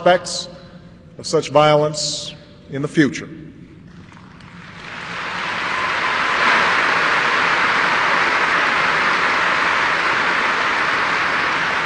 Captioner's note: applause